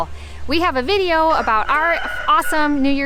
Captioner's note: rooster crowing